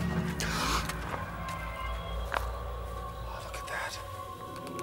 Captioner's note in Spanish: gasping